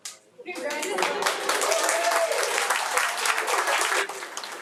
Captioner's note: audience cheering